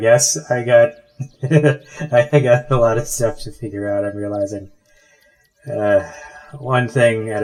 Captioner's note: laughs